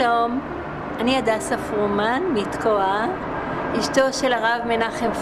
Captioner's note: speaking foreign language